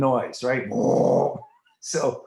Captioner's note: imitating whirring